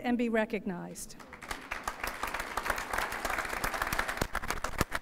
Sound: applause

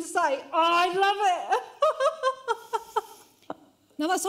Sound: laughs

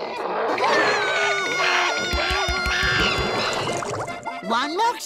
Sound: screaming

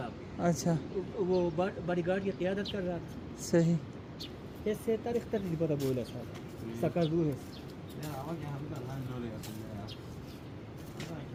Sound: local language

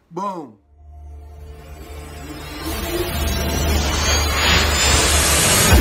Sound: loud electronic blasts

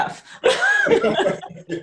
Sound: laughter

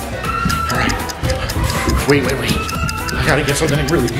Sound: screams

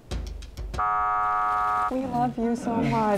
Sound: buzzer buzzes

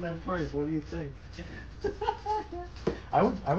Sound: laughs

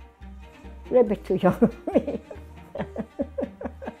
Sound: laughs

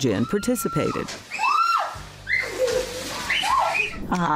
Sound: screaming

